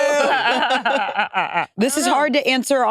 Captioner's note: participants laughing